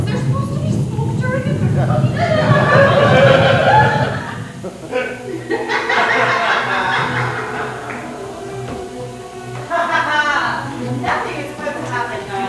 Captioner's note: applause